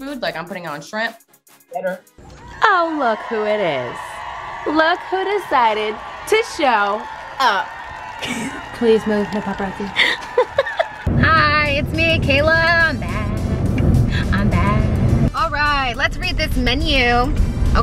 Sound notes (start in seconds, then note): 3.7 people cheering; 9.8 laughing